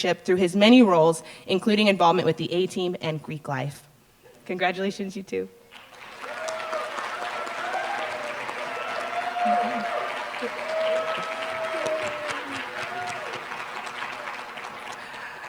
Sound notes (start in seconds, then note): 6.2 applause